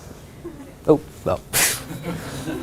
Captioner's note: laughter